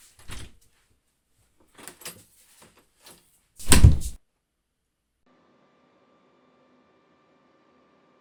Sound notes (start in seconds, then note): 3.6 door slams shut